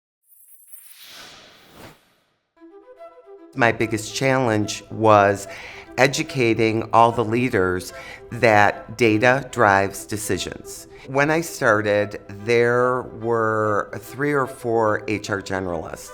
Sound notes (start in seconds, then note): 0.3 logo swooshing; 2.7 upbeat music